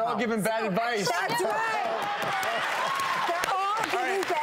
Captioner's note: audience cheers